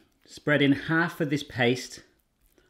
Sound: none

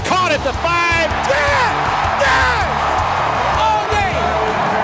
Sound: voiceover; cheering and yelling

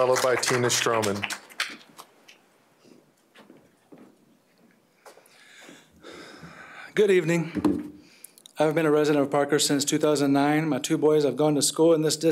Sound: applause

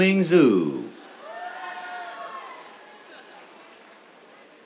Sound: cheers

